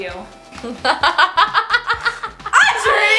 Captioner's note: laughs